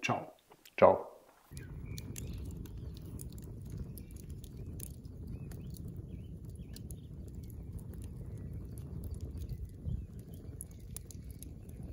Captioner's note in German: Vogelgezwitscher